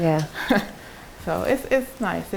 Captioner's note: chuckles